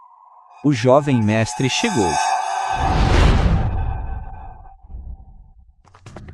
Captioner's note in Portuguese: grito